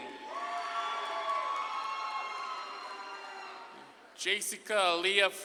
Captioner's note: audience claps and cheers